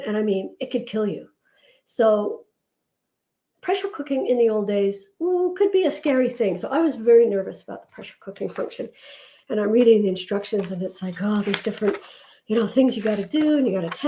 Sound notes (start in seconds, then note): none